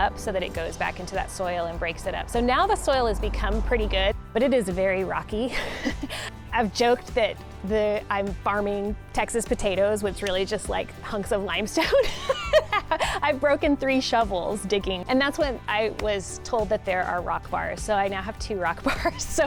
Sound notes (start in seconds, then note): 5.5 chuckles; 11.8 laughs